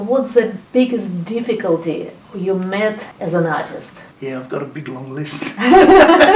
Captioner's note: laughing